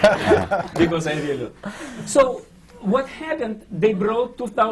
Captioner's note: laughter